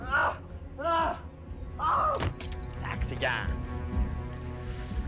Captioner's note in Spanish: Quejidos